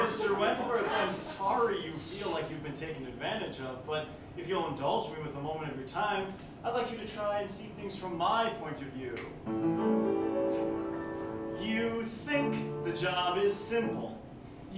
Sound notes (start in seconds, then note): 9.1 snap